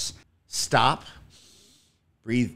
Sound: inhales deeply

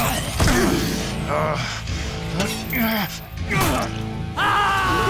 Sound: grunting; screaming

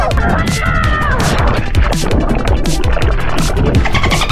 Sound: screaming; water splashing; upbeat music

